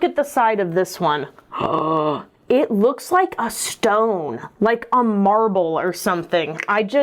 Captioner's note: gasps